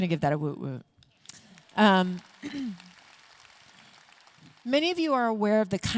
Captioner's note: audience clapping